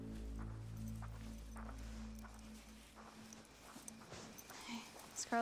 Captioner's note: insects chirping